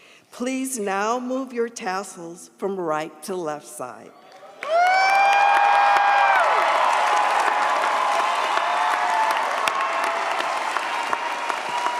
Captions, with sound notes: Please now move your tassels from right to left side. (audience cheers) (audience applauds)